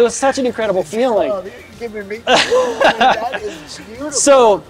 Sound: laughs

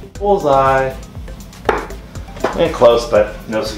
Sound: dart hitting board

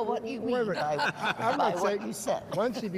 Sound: all laughs

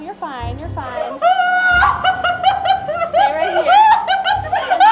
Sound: moaning; laughing hysterically

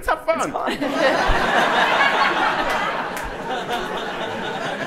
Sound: audience laughing

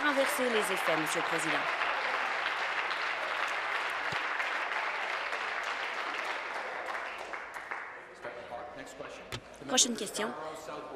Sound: applause

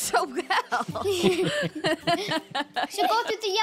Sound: laughing

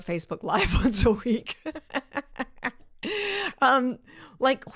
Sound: laughs

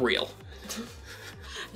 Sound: laughing

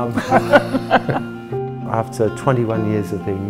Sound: laughter

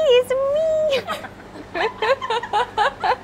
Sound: laughs

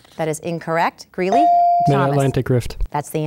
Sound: ding

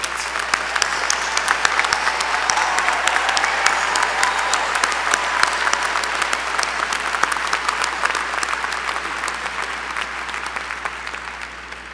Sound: applause

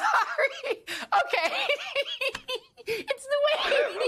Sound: laughs

